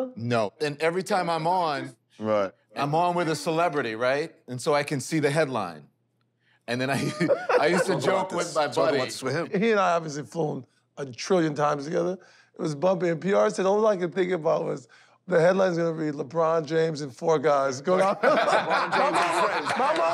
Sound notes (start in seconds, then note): 6.9 laughs; 18.0 laughter